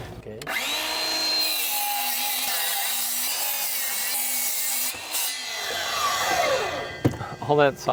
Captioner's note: sawing